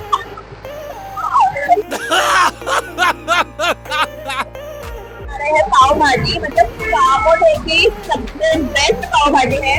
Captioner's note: laughs